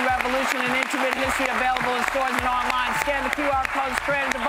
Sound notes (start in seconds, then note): 2.4 cheers and applause